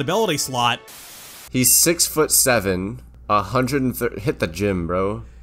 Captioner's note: static